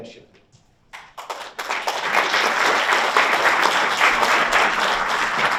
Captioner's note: audience applauds